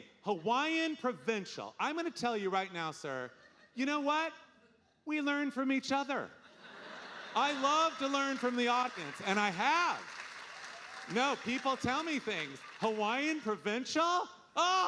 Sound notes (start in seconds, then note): 6.5 audience laughing; 10.0 audience applauding